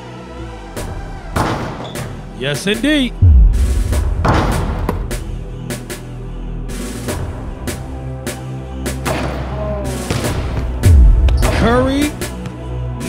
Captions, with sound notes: (ball dunking) - Yes indeed. (ball dunking) (ball bouncing) (ball thudding) - Ooh! (ball bouncing) (ball thudding) Carrie,